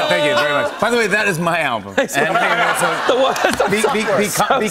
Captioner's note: laughter